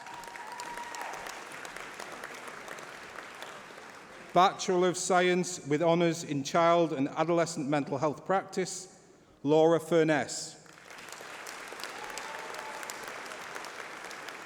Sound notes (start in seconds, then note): 10.6 applause